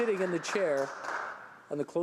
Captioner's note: some Applause